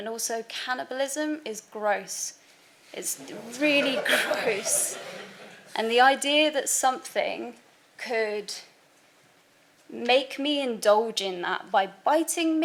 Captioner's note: background laughter